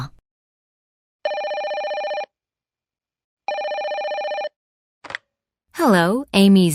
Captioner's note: telephone rings